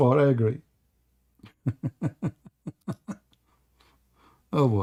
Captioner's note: Ketawa